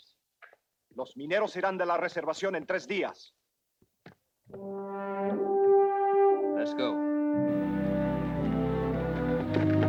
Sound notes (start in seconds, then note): 1.1 Ramirez speaks Spanish; 4.6 moody orchestral music